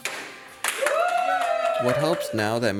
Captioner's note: cheers and applause